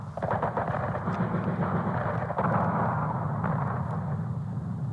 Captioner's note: gunshots